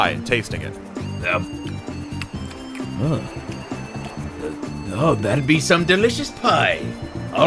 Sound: smacking lips

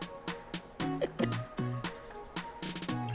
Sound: laughs

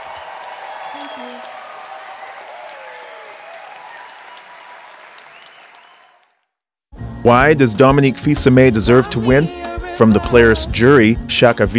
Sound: cheers and applause

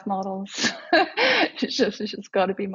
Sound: laughs

